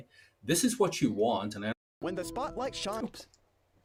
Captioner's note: voiceover